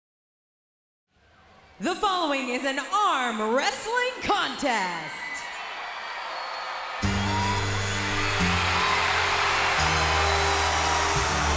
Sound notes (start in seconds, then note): 5.3 audience cheers; 8.2 upbeat music